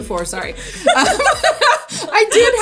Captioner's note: both laughing